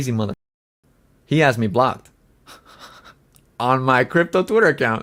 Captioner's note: laughs